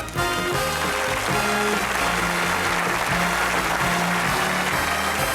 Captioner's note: audience applauds